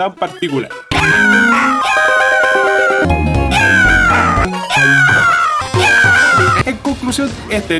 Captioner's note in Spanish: Grito del juego